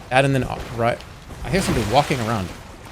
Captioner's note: none